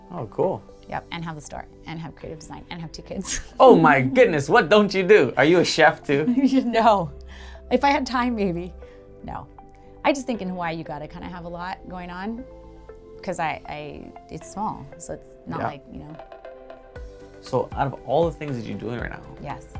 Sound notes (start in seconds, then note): 6.2 giggles